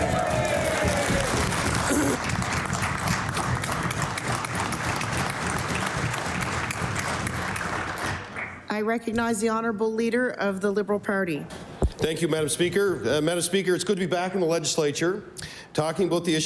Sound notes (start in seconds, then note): 2.9 cheering/Applause